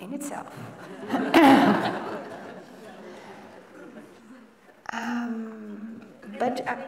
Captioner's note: laughter